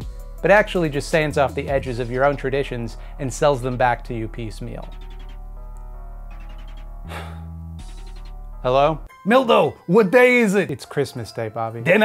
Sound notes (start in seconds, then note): 7.1 sigh